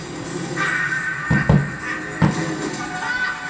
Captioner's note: Ursula laughs evilly